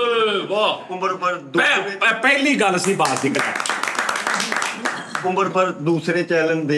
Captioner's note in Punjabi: ਤਾੜੀਆਂ